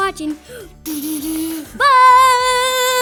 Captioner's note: robot sound